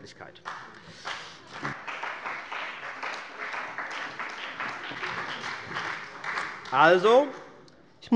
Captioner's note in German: Beifall bei der CDU und dem BÜNDNIS 90/DIE GRÜNEN